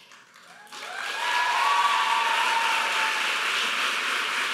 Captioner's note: audience applauding